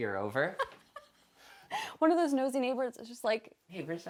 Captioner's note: laughs